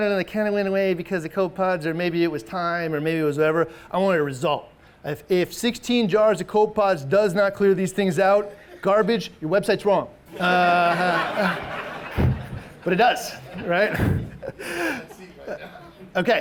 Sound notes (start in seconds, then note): 10.3 all laughing